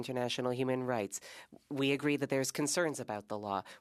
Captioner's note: speaking French